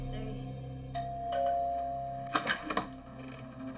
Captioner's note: doorbell ringing